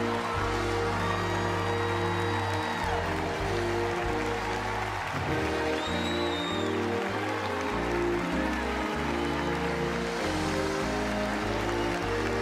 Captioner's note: applause